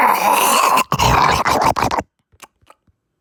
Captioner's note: growling